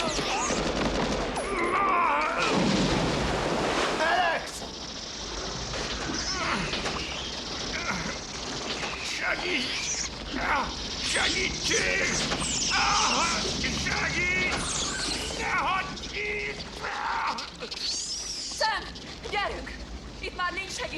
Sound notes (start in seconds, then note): 7.7 gasping; 12.9 hissing; 15.7 screaming